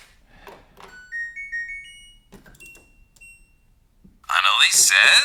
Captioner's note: device dings